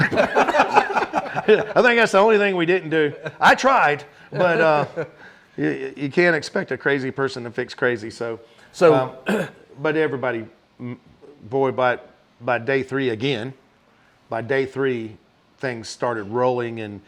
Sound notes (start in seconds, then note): 0.0 everyone laughing; 9.2 clears throat